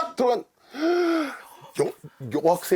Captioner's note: gasp